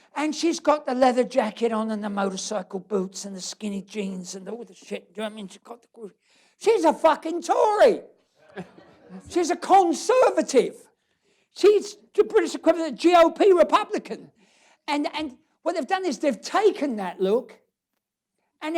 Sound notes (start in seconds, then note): 8.4 laughter